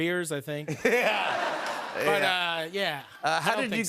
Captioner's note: laughter